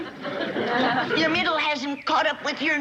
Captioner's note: chuckles softly